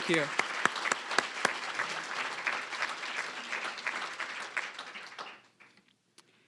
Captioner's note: applause